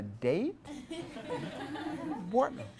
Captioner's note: class laughs